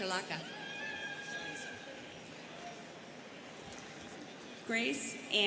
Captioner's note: students cheering